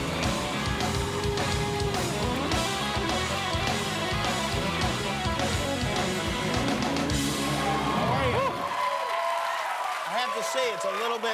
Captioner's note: cheers and applause